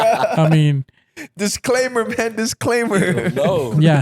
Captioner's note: laughing